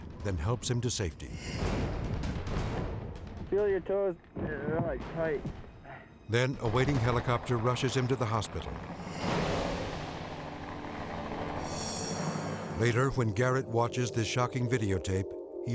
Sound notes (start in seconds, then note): 2.1 rhythmic drumming music; 8.8 blades chopping